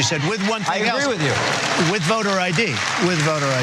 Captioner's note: applause